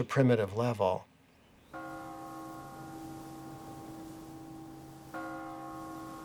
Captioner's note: bell tolling